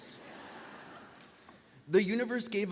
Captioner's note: graduates laughing